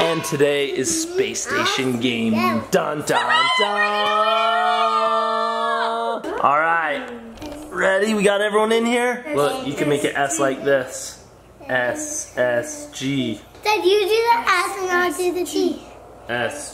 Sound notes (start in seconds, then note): 0.0 mmhmming; 4.8 family cheering